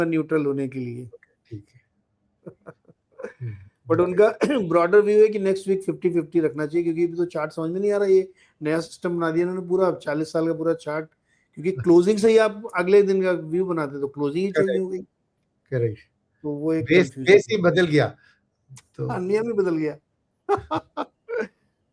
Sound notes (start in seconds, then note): 2.4 laughter; 3.2 sound of clearing throat; 20.5 laughter